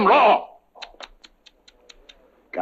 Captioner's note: tsk-tsk, tsk-tsk